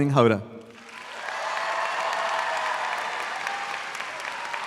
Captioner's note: audience applauds